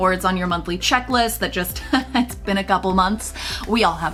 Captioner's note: laughs